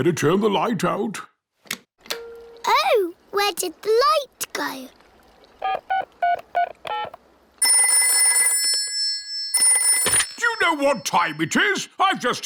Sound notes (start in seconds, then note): 5.9 dialing; 7.6 rings